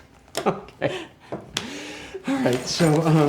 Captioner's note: chuckles